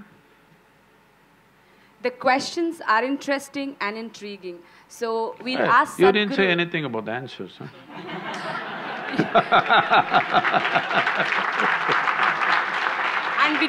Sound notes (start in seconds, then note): 5.5 laughs; 7.9 laughter/Applause; 10.6 Sadhguru laughs